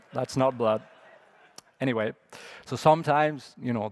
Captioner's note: laughter